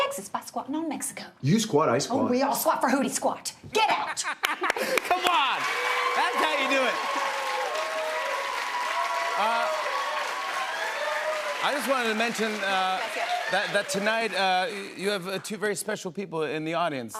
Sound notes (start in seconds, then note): 6.9 cheers and applause